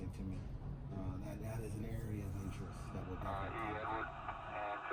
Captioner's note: voice fades